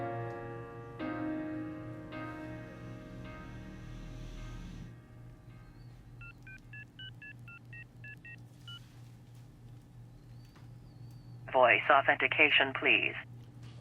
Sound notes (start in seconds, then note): 6.2 phone beeping; 11.5 automated Voice